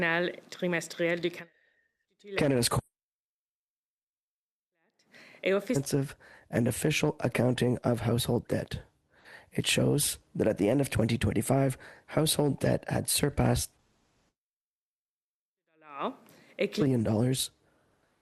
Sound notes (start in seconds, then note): 3.8 speaking French